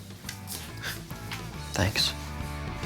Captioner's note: scissors clink; sighs; upbeat music continues